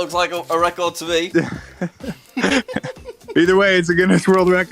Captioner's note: both laugh